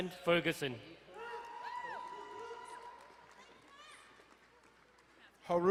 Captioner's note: crowd cheering and applauding